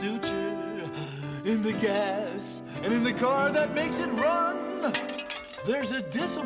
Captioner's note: <i> GLASS BREAKS</i>